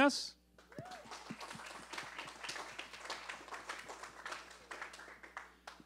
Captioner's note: applause